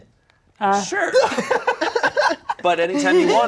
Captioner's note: laughing